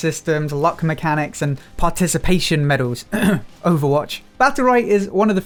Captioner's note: ahem